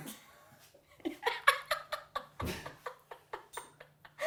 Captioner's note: laughing